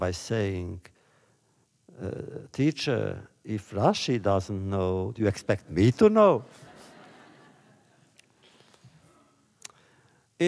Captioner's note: laughter